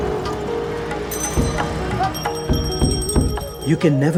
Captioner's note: bell ringing